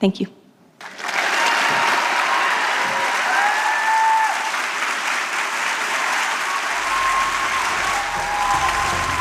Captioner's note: applause